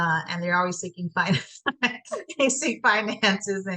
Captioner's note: laughs